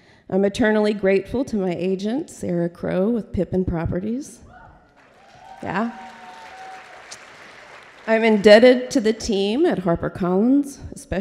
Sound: applause

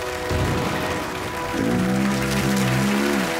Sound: applause

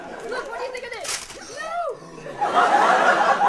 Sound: gasp

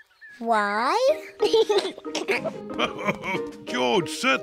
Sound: laughs; giggles

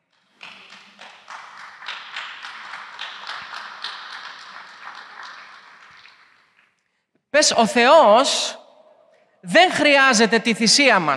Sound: applause

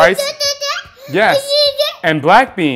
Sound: baby noises

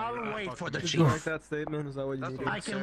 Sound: exhausted breath

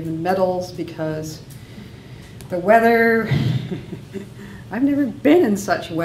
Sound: laughs

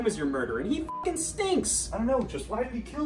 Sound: beep

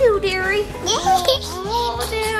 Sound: laughing

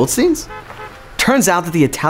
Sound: car horn honking

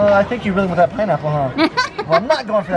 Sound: laughing

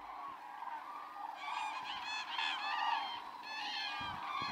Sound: birds squawking

